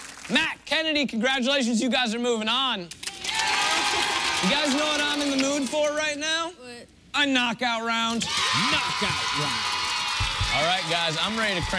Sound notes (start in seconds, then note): 3.0 cheers and applause